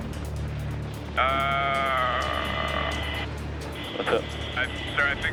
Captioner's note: intense music; man groaning